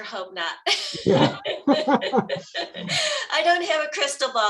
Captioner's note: panelists laughing